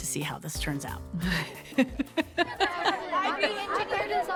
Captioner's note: laughing